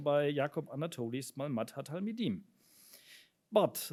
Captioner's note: speaks in foreign language